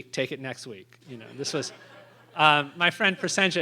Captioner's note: laughter